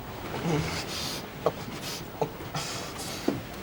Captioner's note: moans in distress